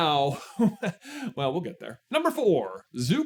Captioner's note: chuckle